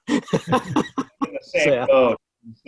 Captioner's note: group laughs